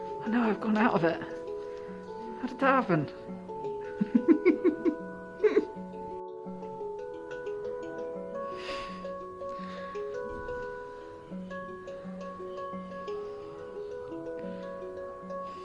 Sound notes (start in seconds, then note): 3.9 lots of giggles